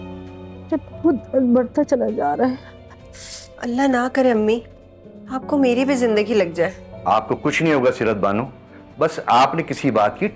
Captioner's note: nasal sound